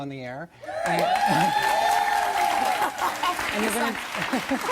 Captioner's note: audience cheering